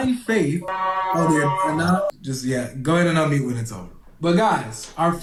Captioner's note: siren blast outside caller's house; the siren horn blast